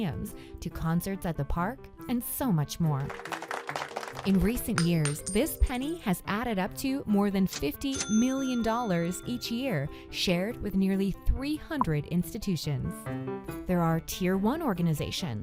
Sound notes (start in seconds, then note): 3.0 audience claps